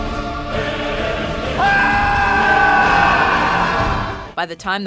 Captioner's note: screams